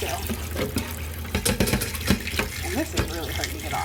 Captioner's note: bucket banging